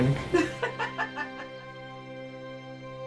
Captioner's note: laughing